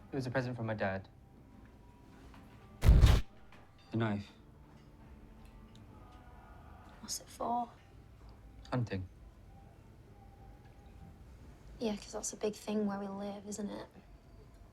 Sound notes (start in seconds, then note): 2.8 crack